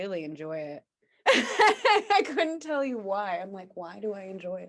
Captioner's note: laughs